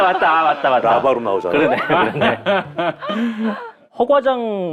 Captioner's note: wriggling